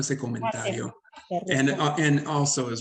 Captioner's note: Sandra speaks Spanish